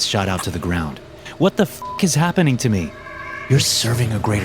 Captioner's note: beep